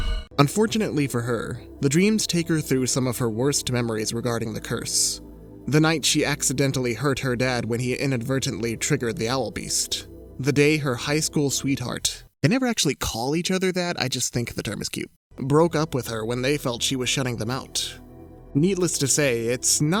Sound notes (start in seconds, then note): none